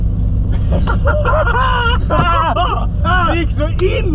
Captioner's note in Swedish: skratt